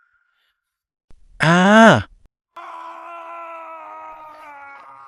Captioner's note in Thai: เสียงกรีดร้อง